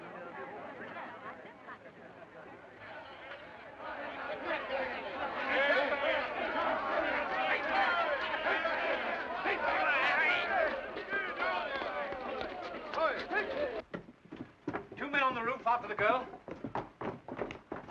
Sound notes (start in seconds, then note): 0.0 crowd murmuring; 2.8 crowd clamoring